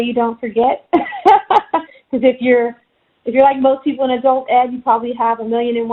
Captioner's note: laughs